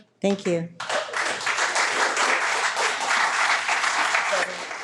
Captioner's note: people applauding